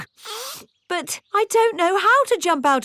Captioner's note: sniffs